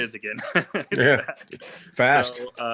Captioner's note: laughing